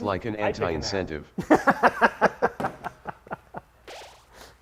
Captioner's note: laughter